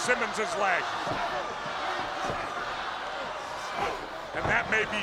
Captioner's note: spectators cheering